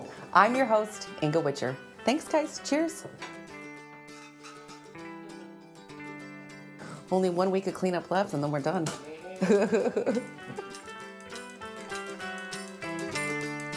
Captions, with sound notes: - I'm your host, Inga Witscher. Thanks guys, cheers. Only one week of clean up left and then we're done. [chuckling] [gentle folksy music]